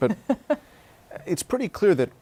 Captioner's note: laughter